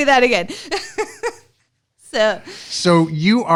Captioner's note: laughter